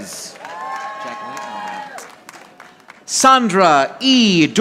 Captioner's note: audience applauding